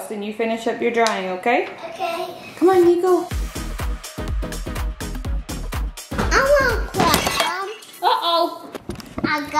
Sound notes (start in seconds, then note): 2.7 upbeat music; 7.0 glass cracks